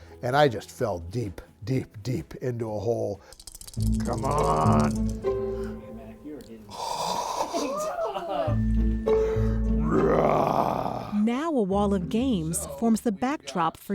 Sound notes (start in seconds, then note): 3.3 dice shaking; 6.6 gasping; 7.2 group chuckling; 9.8 roaring